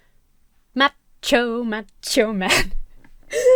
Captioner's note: laughs